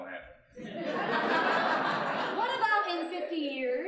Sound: laughing; audience laughing

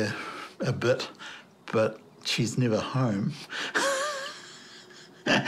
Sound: laughs

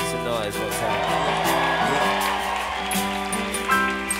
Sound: audience cheering

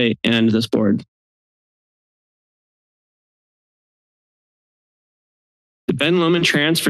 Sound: silence

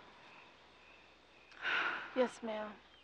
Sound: sighing

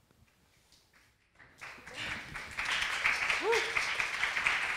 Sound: crowd applauding

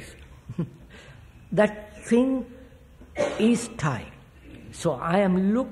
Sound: laughs

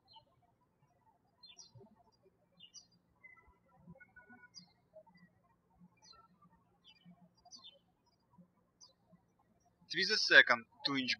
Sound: birds chirping

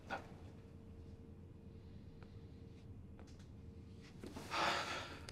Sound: inhales deeply; sighs

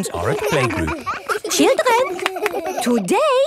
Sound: all laughing

